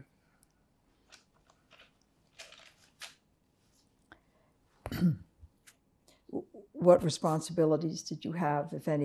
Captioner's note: pauses 6 seconds